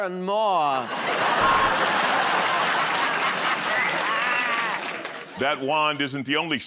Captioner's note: laughter